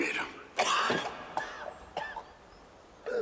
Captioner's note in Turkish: Öksürüyor